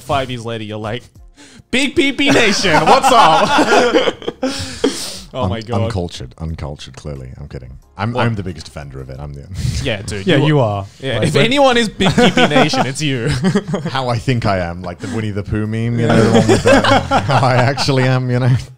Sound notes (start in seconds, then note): 2.1 men laughing; 12.0 laughs